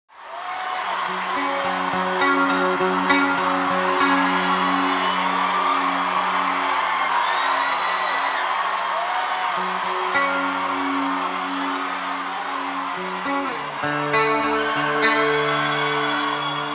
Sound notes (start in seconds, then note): 0.6 crowd cheering; 7.5 crowd screaming